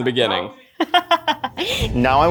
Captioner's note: laughs